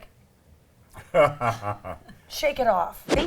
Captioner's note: laughs